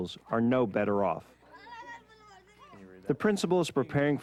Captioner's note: children chatting in foreign language